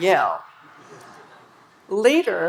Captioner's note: audience laughing